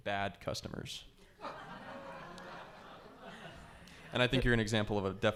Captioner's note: audience laughs